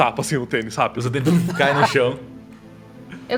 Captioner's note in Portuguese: Puff